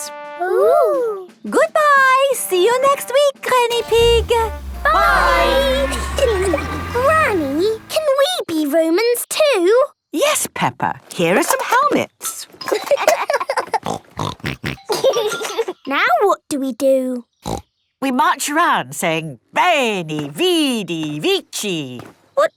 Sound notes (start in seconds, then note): 12.5 laughing; 13.8 snorting